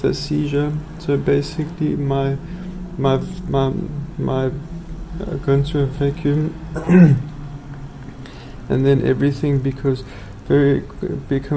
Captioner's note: clears throat